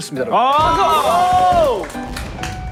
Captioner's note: fireworks; fanfare